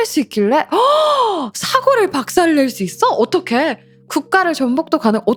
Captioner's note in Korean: 헉 소리